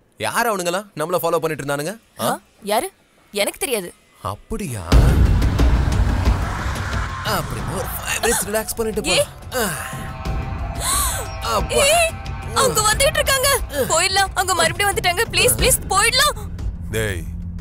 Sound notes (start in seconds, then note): 10.8 gasps